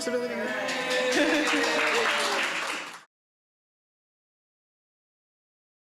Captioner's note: applause